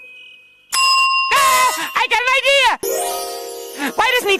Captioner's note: ding